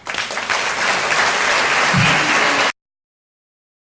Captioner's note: applause